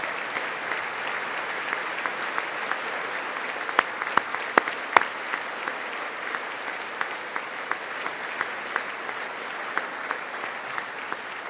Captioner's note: applause